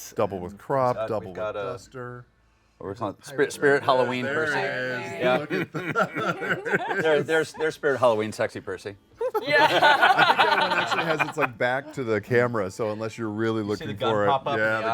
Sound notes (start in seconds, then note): 5.2 laughter; 9.2 laughs